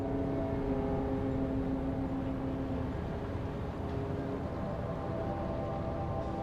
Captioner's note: boat horn blaring